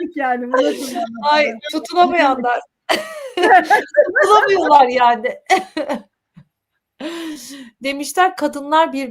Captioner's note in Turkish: kahkaha